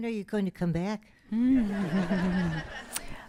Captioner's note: laughter